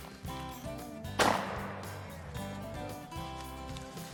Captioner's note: gun shot